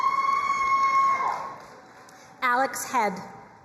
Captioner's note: crowd cheering and applauding